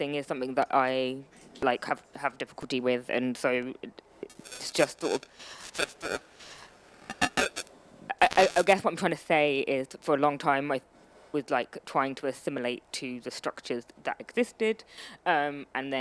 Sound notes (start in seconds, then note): 4.3 audio glitching